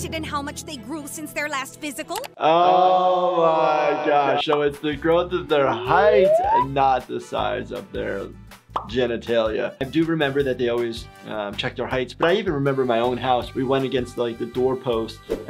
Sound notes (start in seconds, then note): 3.2 voice echos